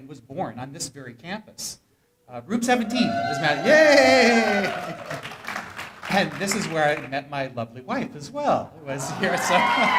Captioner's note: cheering; more cheering